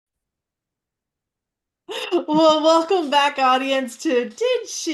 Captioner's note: laughs